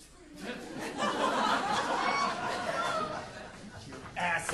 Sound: audience laughing

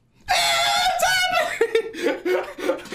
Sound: screams; laughs

